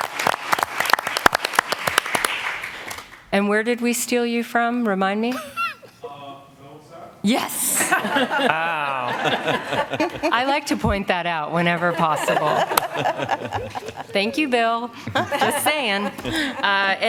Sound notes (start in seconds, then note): 0.0 applause; 7.8 laughter